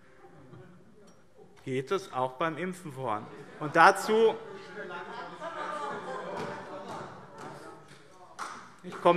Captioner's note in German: Lachen und Zurufe